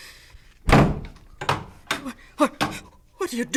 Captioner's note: door closes, locks; gasps